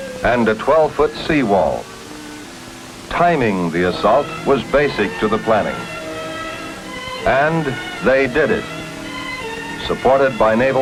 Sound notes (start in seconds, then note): 1.1 boat engine whirring